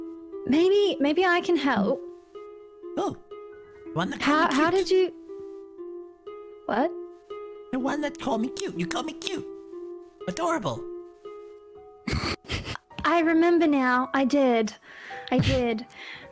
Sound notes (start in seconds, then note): 12.1 abashed chuckle